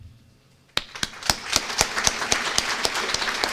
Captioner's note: applause